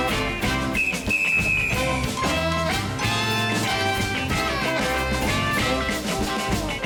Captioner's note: whistle blows; lively instrumental music